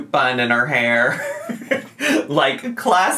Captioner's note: laughs